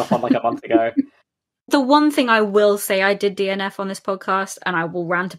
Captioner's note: laughs